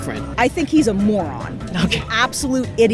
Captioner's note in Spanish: Ambos ríen